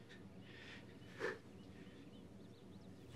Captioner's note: scoffs